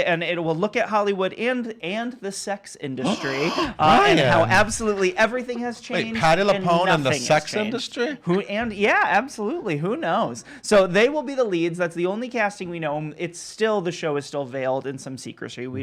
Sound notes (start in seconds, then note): 3.0 gasps